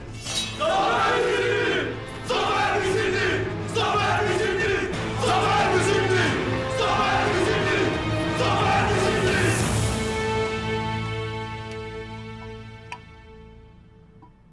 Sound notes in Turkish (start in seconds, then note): 0.0 Kılıç sesleri; 0.8 Hep bir ağızdan